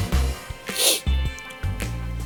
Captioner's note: sniff